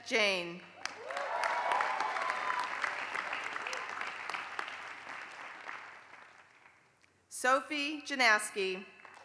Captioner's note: applause; applause